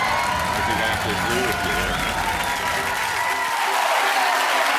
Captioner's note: cheers and applause